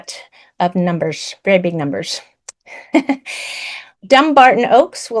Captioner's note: laughs